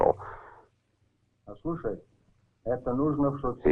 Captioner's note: Marshall speaking in Russian